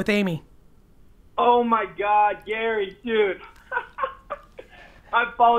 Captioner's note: laughs